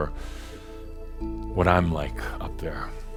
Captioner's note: none